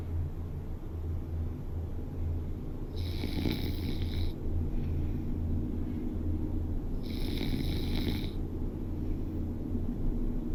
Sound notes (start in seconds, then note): 2.7 snoring